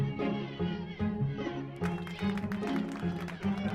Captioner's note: applause